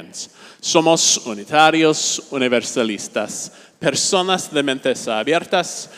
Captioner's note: speaking in a foreign language